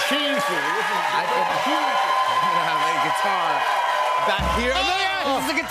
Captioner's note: cheers and applause